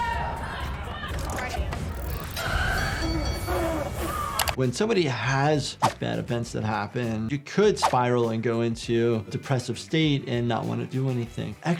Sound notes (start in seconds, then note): 2.7 bell ringing; 4.7 mouse clicking; 5.8 screen swooshing